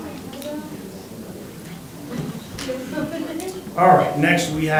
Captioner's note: crowd talking indistinctly